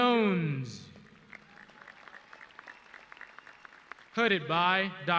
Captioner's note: audience clapping